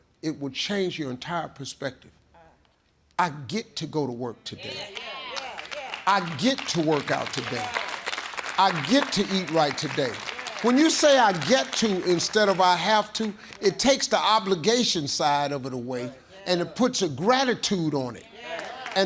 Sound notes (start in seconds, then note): 4.6 audience exclaiming; 7.5 audience clapping; 18.3 audience exclaiming